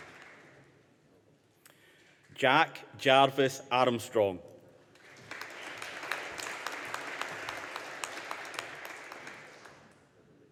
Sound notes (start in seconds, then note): 5.0 audience applauding